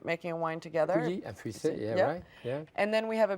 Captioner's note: Jacques speaking in a foreign language